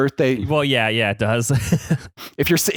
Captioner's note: laughs